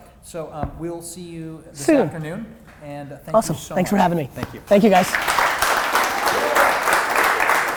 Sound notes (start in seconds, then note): 4.7 audience applause